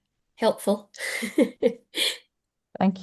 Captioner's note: chuckles